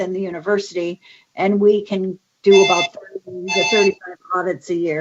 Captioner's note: phone ringing drowns out speaker